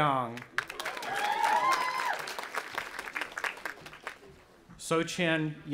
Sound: audience applauding and cheering

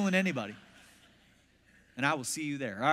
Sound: congregation laughs

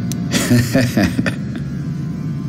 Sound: laughter

